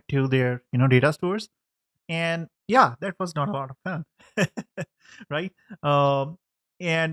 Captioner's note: laughing